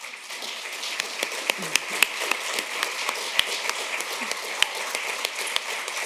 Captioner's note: applause